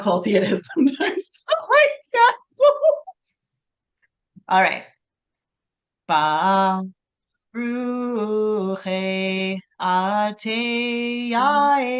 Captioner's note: singsong